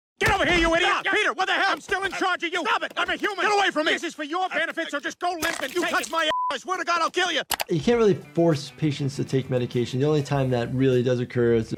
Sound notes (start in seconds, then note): 6.2 beep